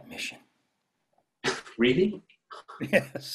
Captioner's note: scoffs